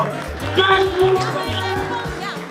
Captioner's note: applause; cheering